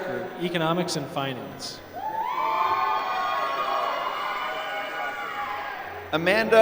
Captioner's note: applause